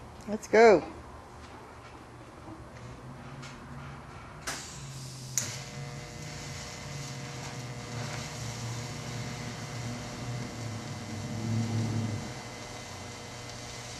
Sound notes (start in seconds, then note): 4.4 welding